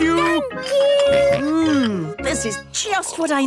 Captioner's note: snorts